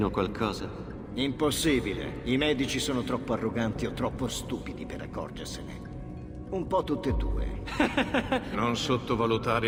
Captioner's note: he gets a laugh from Baroncelli